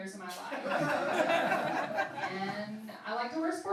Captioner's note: laughing